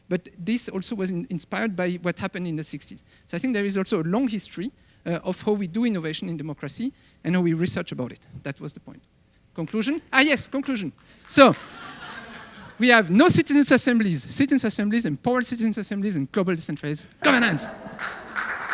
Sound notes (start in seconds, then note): 11.5 audience laughing; 17.2 audience applauding